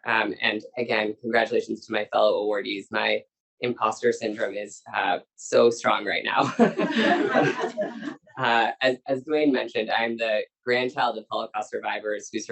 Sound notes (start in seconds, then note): 6.5 laughs; 6.6 audience laughs